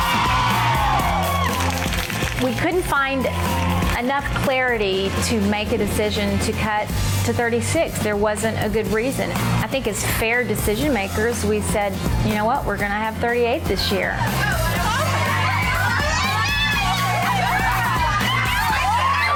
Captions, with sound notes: (women cheering) (women applauding) - We couldn't find enough clarity to make a decision to cut to 36. There wasn't a good reason. I think as fair decision makers, we said, "You know what, we're gonna have 38 this year." (women cheering) (upbeat music)